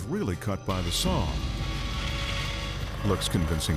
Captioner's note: saw buzzing